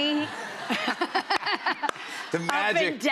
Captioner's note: laughter